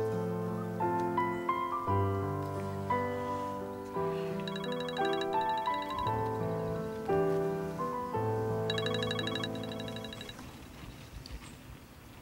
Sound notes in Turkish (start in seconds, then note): 4.4 Telefon çalıyor